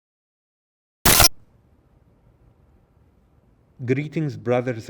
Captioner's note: static crackling